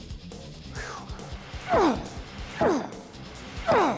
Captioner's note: grunting